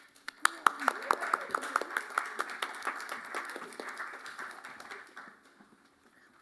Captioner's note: applause